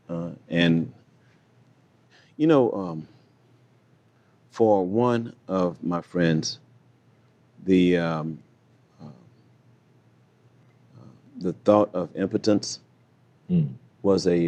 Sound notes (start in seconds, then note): none